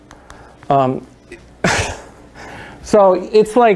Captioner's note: chuckles